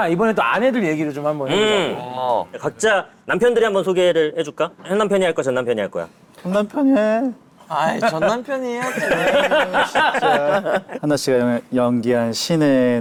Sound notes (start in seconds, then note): 6.1 choking up